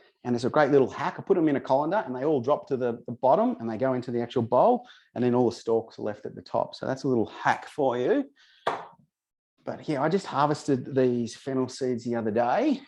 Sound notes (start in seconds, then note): 8.7 vase thuds